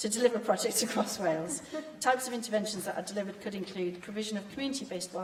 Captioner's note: laughter